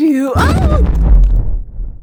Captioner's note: explosion